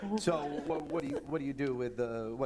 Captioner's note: laughter